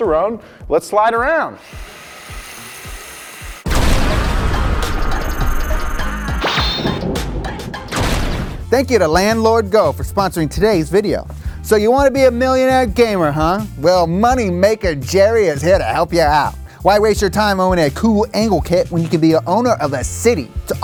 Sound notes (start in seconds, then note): 1.7 toy car buzzes; 3.7 upbeat music